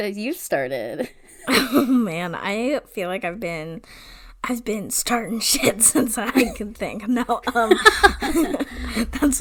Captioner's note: laughs